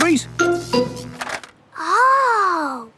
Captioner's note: buzzing